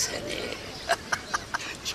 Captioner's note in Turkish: Gülme sesi